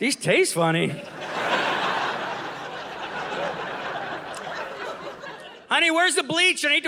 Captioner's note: audience laughing